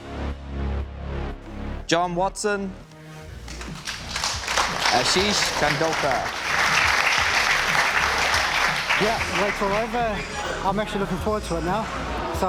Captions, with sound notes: (Clapping) Ashi Kangoka. (Clapping) - Yeah. What so ever, I'm actually looking forward to it now